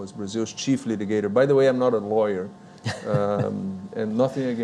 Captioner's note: laughs